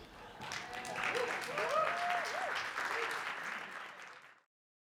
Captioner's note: applause